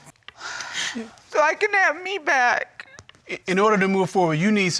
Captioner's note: sobbing